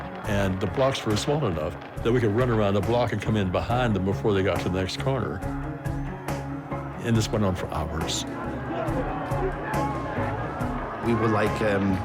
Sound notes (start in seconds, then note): 8.4 shouting, rioting